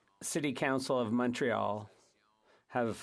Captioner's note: speaking French